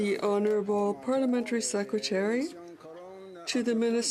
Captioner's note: speaking French